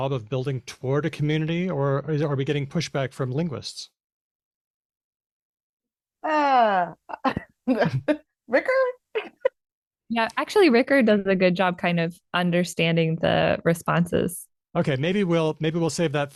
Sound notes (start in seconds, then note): 7.6 chuckles; 9.2 laughs